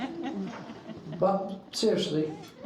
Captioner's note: crowd laughing